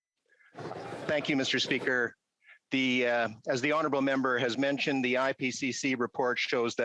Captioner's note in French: voix de l'interprète